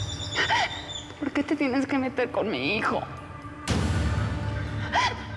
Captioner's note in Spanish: sollozos